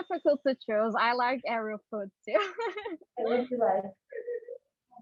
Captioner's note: giggles